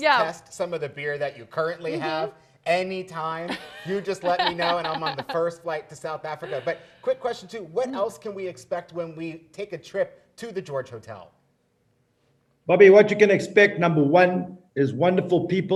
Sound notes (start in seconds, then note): 3.4 laughing